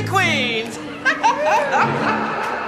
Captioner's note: laughs